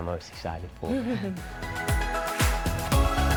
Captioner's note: chuckles